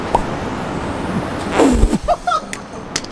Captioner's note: laughter